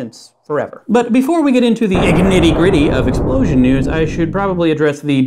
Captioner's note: blasting